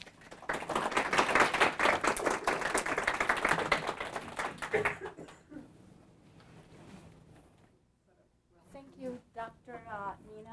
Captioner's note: applause